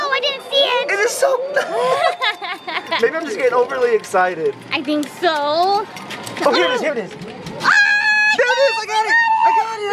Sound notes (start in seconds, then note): 1.4 laughs; 7.6 screams